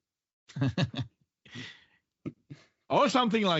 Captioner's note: laughs